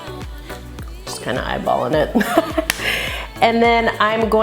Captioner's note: laughs